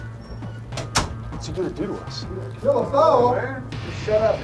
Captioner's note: voiceover